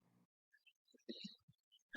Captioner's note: silence